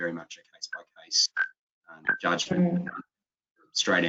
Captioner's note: speaking faintly